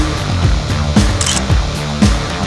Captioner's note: photo Click